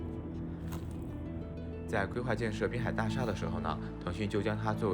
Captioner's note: speaking Chinese